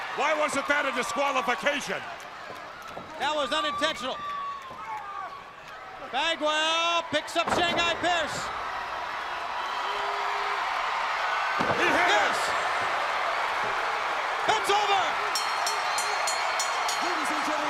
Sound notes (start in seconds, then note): 8.6 crowd cheering; 15.2 bell ringing; 15.9 crowd cheering